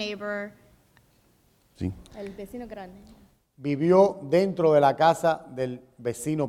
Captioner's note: speaking in Spanish